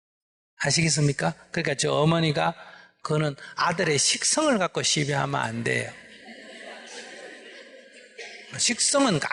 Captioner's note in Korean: 청중 웃음